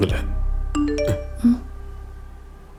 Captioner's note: phone vibrates